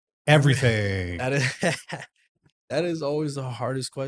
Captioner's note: laughs